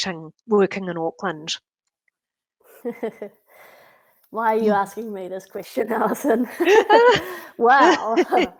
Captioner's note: laughs; laughter